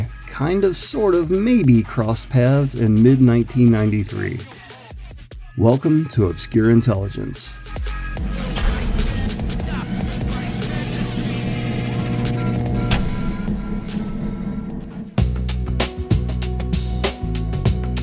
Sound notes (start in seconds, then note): 11.0 SFX: 60Hz hum increases, large electrical switch turns off